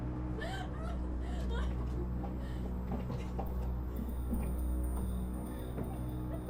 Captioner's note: distant laughter